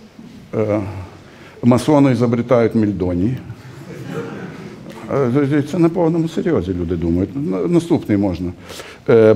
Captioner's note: laughter